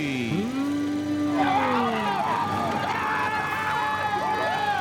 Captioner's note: cheering